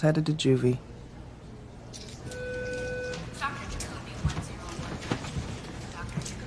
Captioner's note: tone plays